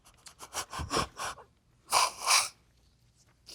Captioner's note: sobbing